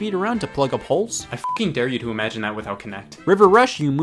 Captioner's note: beep